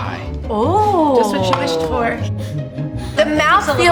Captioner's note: laughing